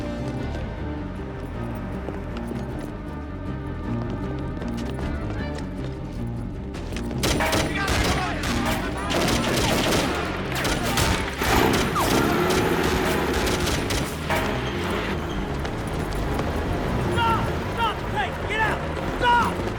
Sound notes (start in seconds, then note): 7.2 gunfire clattering; 7.7 people yelling; 12.0 engine revving